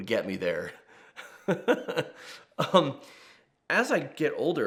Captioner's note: laughs